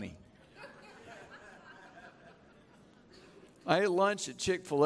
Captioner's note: chuckling